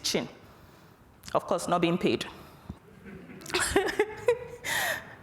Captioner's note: laughs